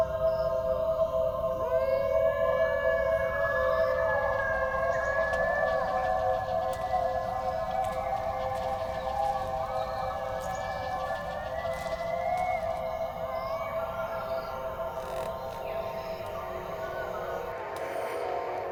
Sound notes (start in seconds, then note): 1.7 the animal howls continue; 16.1 A radio plays warbled music